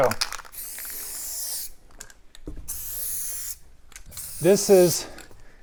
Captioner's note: spray can rustling